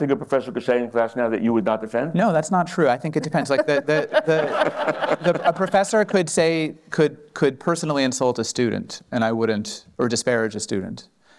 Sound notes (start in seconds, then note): 3.2 laughter